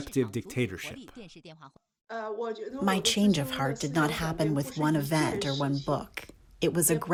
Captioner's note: through translator